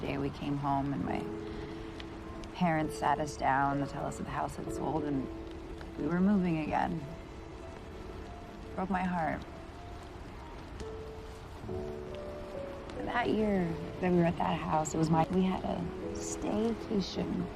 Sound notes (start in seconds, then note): none